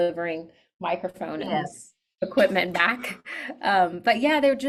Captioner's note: chuckles